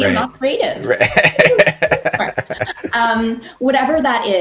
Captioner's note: laughing